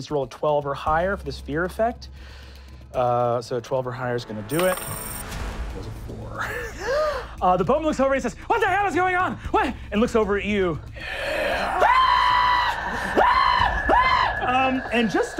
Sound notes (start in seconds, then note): 6.9 gasps; 10.9 gasping; 11.2 screaming